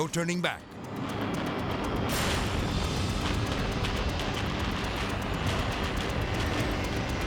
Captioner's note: building crashing; explosion booming; intense music